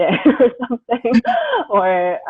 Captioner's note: laughing